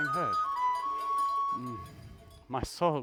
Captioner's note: bells